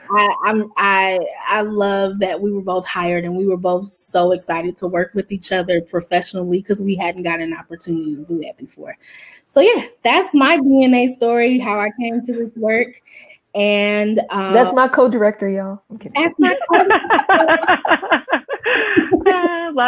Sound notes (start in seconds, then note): 16.2 laughs; 16.3 group laughs